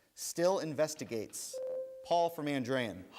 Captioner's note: bell rings